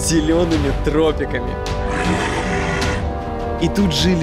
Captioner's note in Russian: Рычит